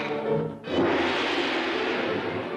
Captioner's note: man shouts in foreign language; gong crashes